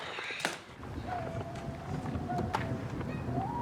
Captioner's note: wind whistling, storm brewing